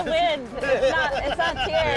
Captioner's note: laughter